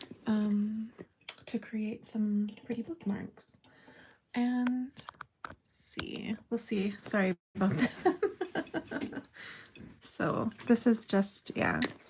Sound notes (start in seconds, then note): 7.8 bumps the camera, oops! Laughter